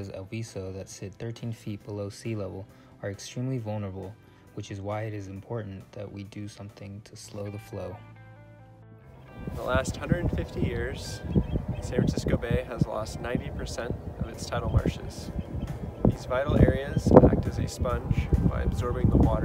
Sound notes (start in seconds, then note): 9.3 man 2 voice, wind blowing